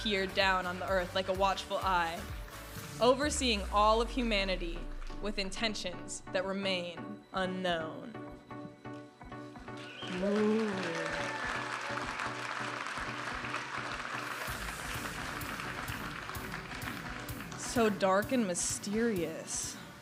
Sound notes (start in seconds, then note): 8.8 vibrant music; 11.6 audience applauding and cheering